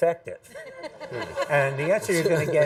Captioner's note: audience laughs